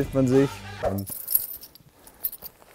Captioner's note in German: Klirren